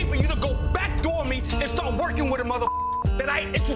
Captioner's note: beep